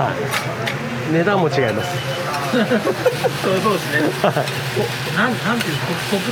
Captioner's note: laughs